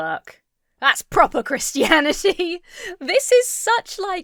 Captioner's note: laughs